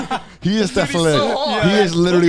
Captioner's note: men laugh